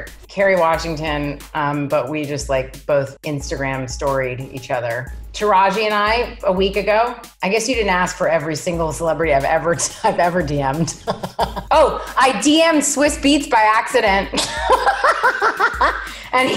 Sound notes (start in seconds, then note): 10.8 laughs; 14.9 laughs loudly